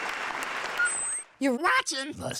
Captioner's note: beeping